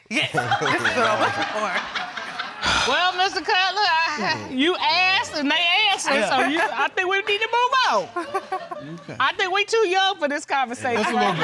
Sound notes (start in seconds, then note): 0.3 audience chuckling; 8.3 audience laughing